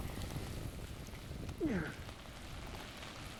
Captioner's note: grunts